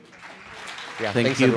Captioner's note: applause